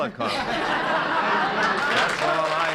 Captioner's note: laughter